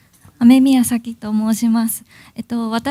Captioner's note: speaking japanese